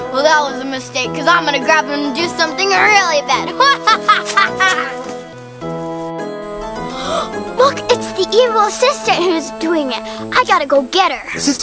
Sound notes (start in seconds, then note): 3.4 laughs; 6.6 gasps